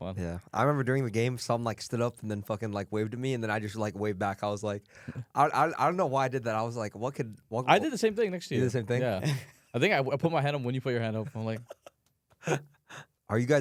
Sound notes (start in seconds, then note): 9.5 laughs; 12.4 laughs